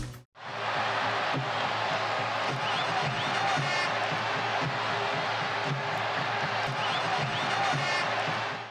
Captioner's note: claps